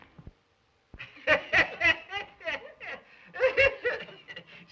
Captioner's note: laughter